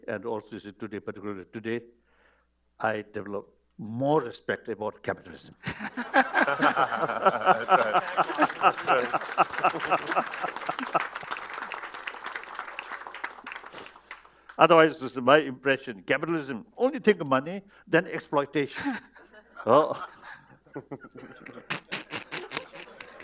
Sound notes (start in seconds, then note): 8.3 laughter; 9.7 applause